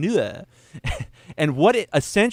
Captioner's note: laughs